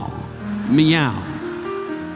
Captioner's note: audience laughing